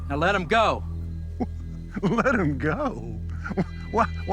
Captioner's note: chuckling